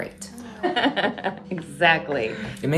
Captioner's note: laughing